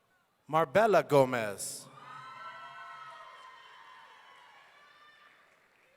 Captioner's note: audience cheering